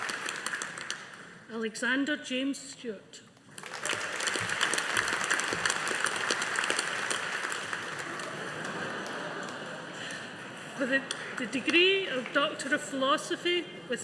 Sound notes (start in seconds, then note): 3.5 audience applauding; 7.7 audience laughing